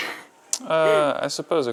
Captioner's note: laughs